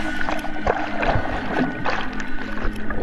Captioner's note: water sloshing